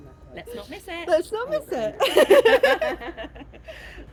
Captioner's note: laughing